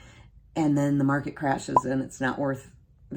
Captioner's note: bubble pops